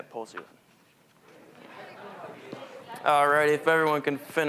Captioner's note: general chatter